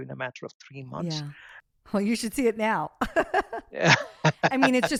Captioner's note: laughs